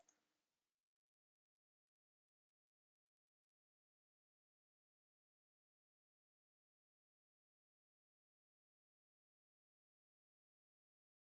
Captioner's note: silence